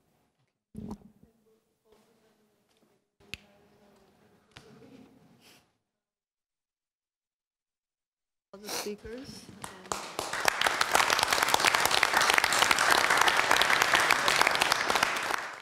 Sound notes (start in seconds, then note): 9.6 applause